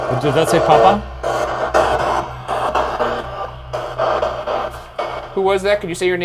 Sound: honey tone buzzing

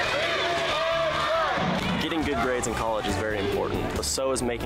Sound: cheering

